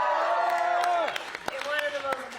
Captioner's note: cheering